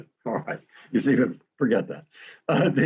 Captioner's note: laughs